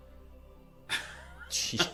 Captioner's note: laughing